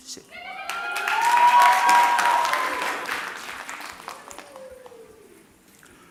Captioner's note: audience cheering and clapping